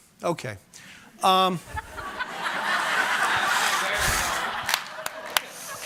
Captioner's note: audience laughing